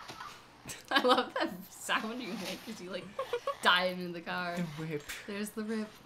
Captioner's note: snickers